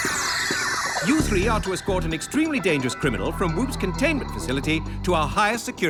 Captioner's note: digital chirping; funky music